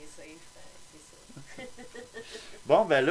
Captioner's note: laugh